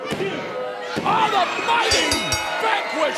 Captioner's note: bell ringing